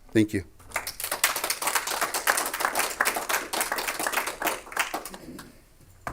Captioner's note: clapping